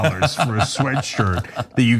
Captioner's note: laugh